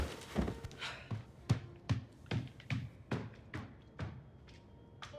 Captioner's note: feet stomping